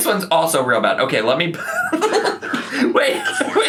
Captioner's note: laughs